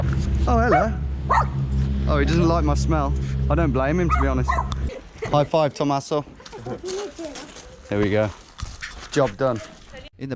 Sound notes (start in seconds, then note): 1.3 dog barking; 6.4 speaking in a foreign language